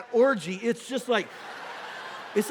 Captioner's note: congregation laughing